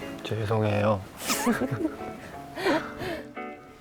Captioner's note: laughing